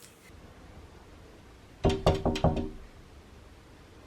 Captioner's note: knocking